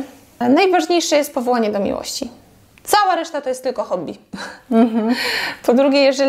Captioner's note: laugh